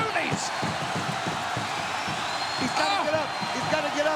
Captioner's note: crowd cheers